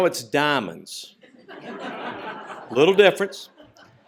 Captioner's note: laughter